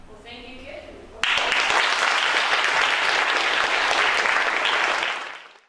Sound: applause

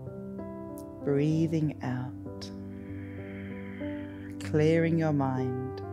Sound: exhales

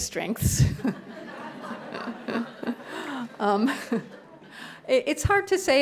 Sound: laughter

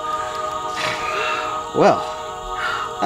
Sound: sword rings; panting

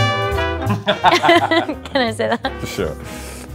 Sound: laughing

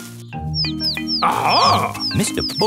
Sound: chirping

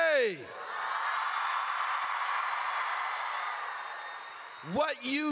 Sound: crowd cheers

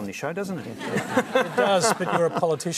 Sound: laughter

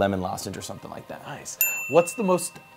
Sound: bell chimes

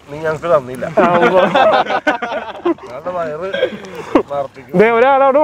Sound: everyone laughing

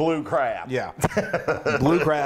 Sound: laugh

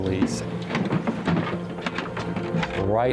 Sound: bighorn sheep running

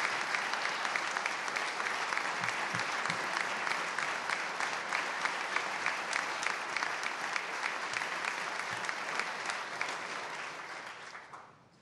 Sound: applause

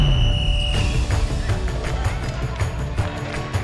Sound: whistle blowing

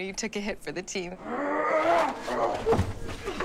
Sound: grunting

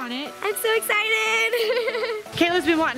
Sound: giggles

